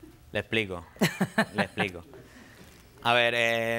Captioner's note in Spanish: Risas